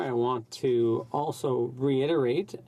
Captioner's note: speaking French